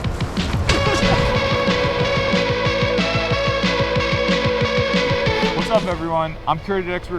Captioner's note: energetic music; laughing